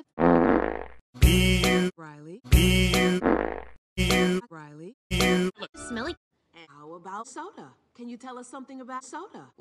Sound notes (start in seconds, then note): 0.1 farts; 3.1 farts Again